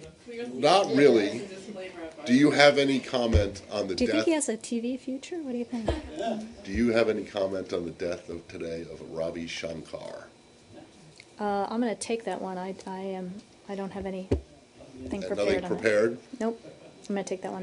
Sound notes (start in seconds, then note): 5.8 laughter